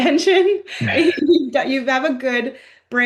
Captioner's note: laughs